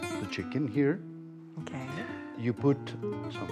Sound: speaking Spanish

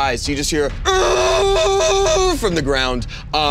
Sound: Krungdar groans

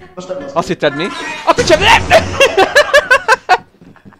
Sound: boom

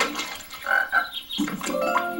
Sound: frog ribbiting

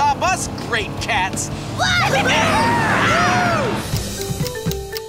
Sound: cheering

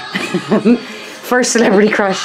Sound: chuckling

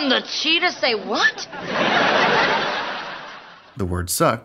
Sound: laughter

